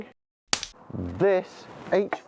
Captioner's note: snap